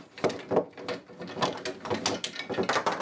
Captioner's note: clattering